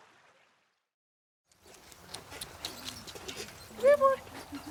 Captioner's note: bike squeaks